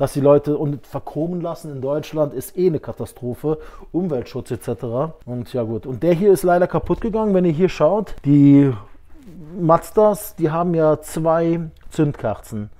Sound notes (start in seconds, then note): none